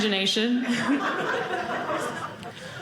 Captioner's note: audience laughing